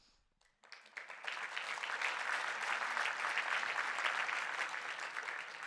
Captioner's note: audience applause